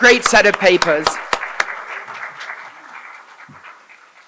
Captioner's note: applause